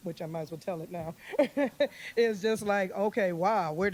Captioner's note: laughs